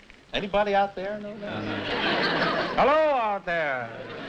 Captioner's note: laughter